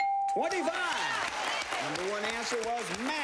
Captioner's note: cheers and applause